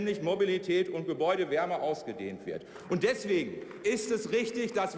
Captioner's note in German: Beifall bei Abgeordneten der CDU/CSU